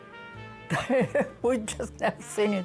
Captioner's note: laughing